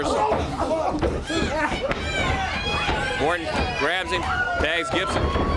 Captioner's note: crowd cheering